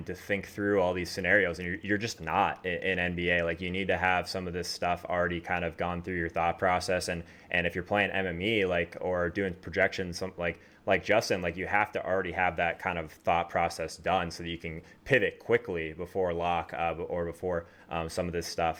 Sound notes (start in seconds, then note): none